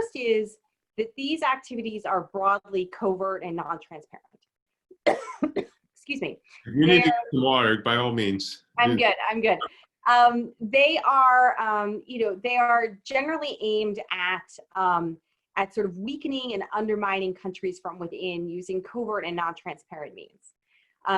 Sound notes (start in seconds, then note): 5.0 coughs